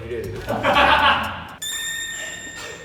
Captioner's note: staff laughing